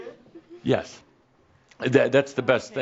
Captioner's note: Adamus chuckles